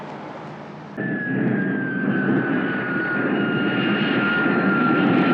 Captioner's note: airplane engine roars